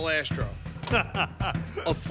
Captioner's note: upbeat music; Buddy laughs